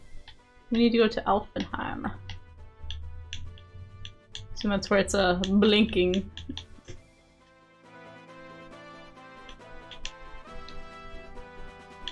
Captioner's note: humming